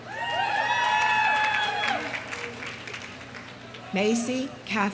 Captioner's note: audience cheering; audience applauding